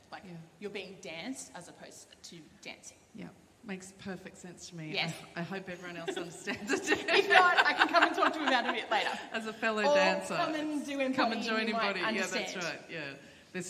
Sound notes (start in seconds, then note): 6.0 laughter